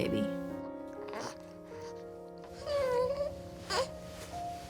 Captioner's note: baby fussing